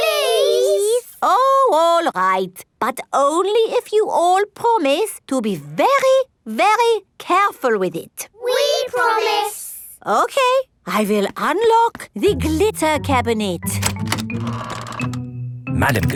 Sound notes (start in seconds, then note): none